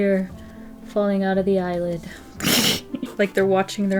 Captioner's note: laughs